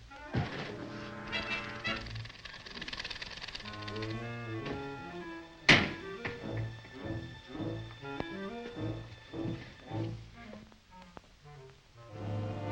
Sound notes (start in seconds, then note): 0.4 door closes; 1.8 elevator clicks; 5.6 door slams